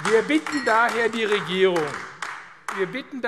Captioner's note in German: Beifall AfD